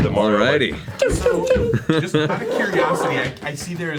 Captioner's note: Mario sound effects